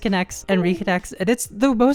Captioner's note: USB accessory disconnecting